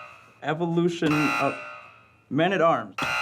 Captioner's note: buzzing